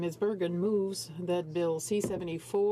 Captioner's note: speaking French